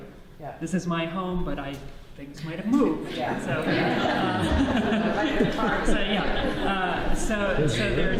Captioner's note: audience laughs